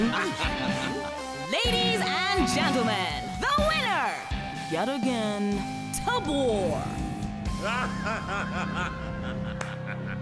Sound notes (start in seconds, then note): 5.8 evil laughter; 9.5 a few people clap